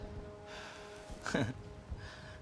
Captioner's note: chuckles